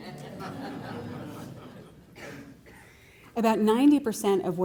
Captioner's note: laughter